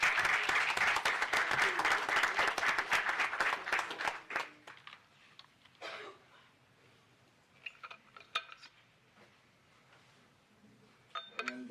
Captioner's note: applause